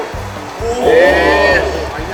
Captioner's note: cheering